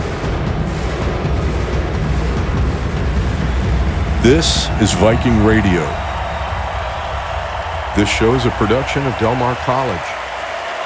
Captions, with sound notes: - This is Viking Radio. (crowd cheering) This show is a production of Del Mar College.